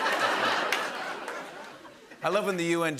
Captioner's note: laughter